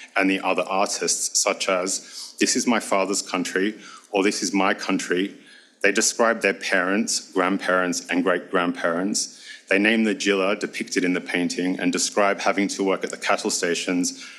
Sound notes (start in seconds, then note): 10.4 speaks foreign language